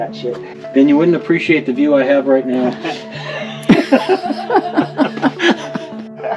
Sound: laughter

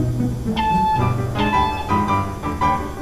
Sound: beep beep

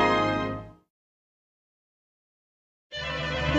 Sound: pause in music

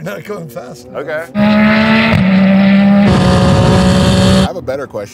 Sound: engine Revving

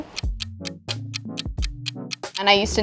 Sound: clock ticking

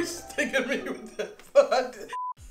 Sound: electronic beep

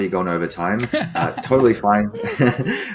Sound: laughing

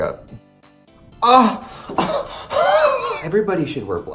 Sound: gasping

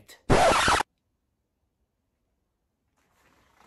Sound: record scratching

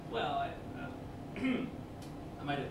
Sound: Quincy clears his throat

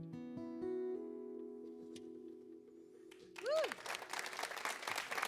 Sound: applause

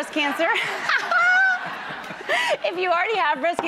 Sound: audience laughs

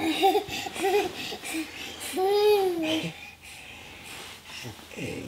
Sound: giggling

